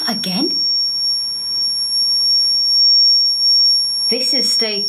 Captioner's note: loud beeping